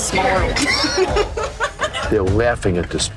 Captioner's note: laughter